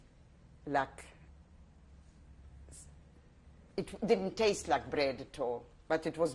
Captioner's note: pauses for 3 seconds